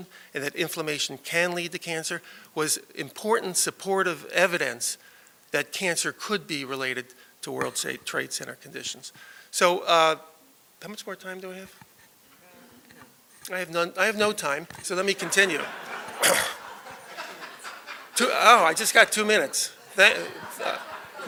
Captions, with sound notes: and that inflammation can lead to cancer, was important supportive evidence that cancer could be related to World Trade Center conditions. So how much more time do I have? None. I have none, I have no time, so let me continue. [LAUGHTER] Oh, I just got two minutes.